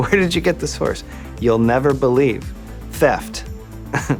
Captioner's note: chuckles